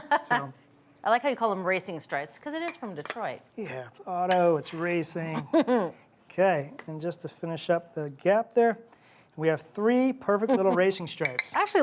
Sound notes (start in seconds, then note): 0.0 laughing; 5.3 chuckling; 10.4 chuckling